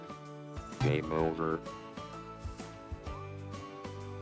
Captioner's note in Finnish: iloista musiikkia; Robottiääni